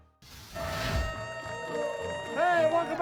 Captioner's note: audience applauding and cheering